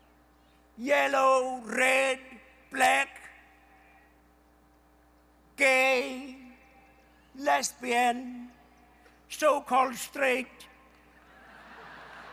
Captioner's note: laughter